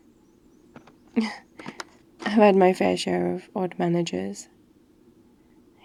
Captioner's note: laughs